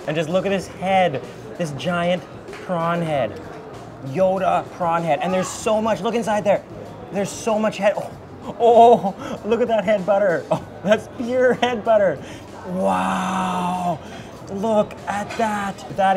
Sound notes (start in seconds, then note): 8.2 laughs